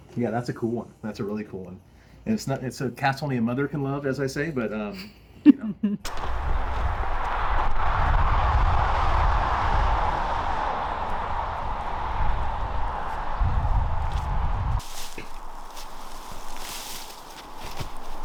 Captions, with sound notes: Yeah, that's a cool one. That's a really cool one. And it's a cast only a mother can love, as I say, but, you know? (wind whooshing) (vegetation rustling)